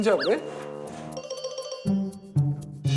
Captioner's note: voice mimicking